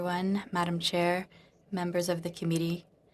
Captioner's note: speaking in French